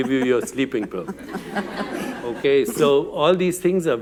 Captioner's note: laughter